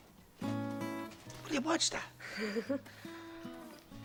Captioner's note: Risas